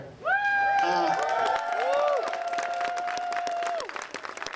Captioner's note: crowd cheers